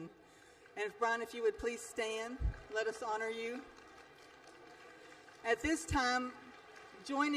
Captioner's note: applause